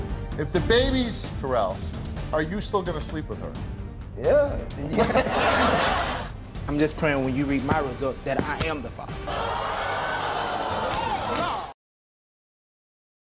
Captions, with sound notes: - If the baby's Terrell's, are you still gonna sleep with her? - Yeah. (everyone laughs) - I'm just prayin' when you read my results that I am the father. (audience yells) No!